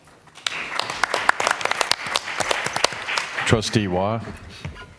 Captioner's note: applause